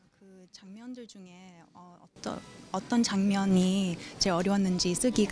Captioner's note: speaks in a foreign language